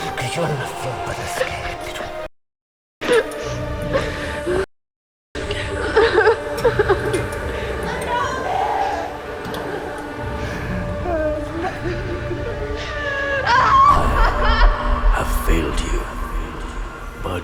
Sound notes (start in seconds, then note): 5.8 crying; 9.4 dramatic music; 13.4 Mia screaming